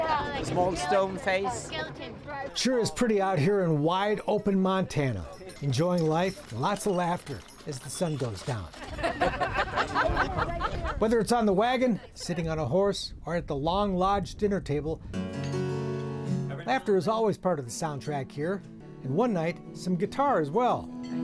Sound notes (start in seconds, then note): 8.7 laughter; 15.1 slow guitar music